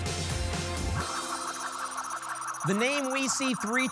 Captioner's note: spinning sounds